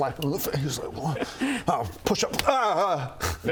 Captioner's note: slap